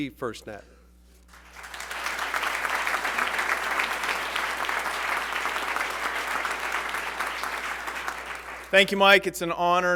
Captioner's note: applause